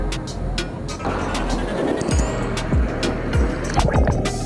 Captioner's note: water gushing; water burbling